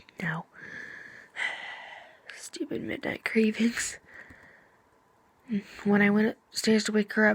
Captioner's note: sigh